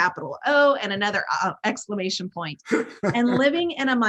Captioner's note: laughs